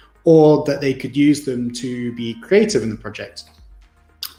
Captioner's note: none